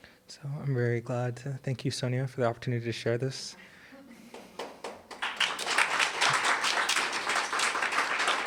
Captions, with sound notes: So I'm very glad. Thank you, Sonya, for the opportunity to share this. (audience applauding)